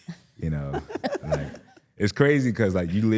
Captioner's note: laughing